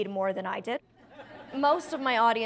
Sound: audience laughs

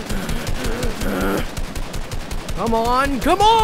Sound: breathing heavily

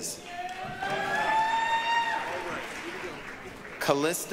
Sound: applause, cheering

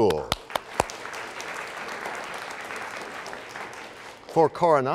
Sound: applause

